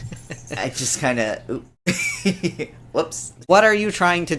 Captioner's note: laughs